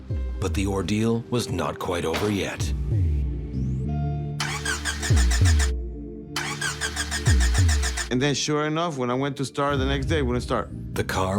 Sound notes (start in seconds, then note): 4.6 engine sputtering